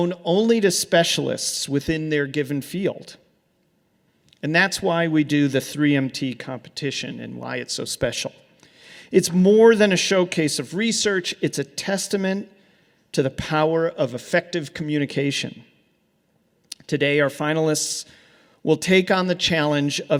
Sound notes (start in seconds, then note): none